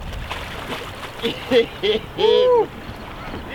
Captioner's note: all laughing and whooping